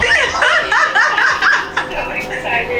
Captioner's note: laughing